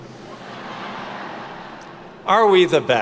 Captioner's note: attendees laugh